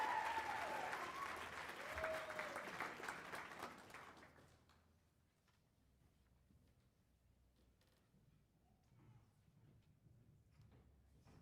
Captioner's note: cheers and applause